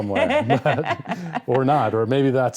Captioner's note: both laughing